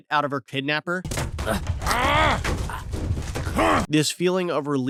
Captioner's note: Lee Grunting